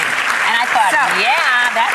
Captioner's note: audience clapping